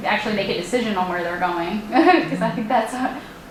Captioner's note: laughs